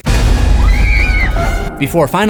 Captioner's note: screams